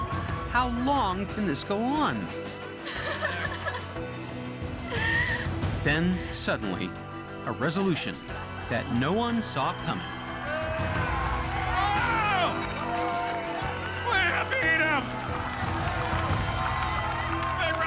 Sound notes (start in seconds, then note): 3.6 crying; 10.4 cheers and applause; 15.9 cheers and applause